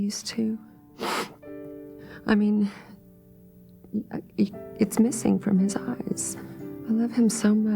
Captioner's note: sniffles